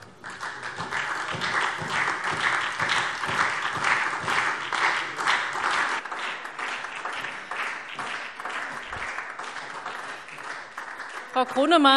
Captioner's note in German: Beifall SPD und vereinzelt DIE LINKE